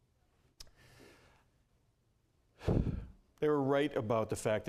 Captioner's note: sigh